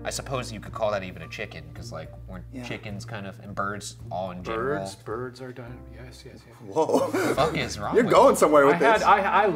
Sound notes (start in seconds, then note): 6.8 laughing